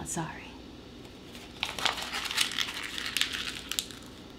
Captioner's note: paper crumpling